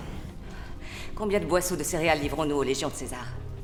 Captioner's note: sighs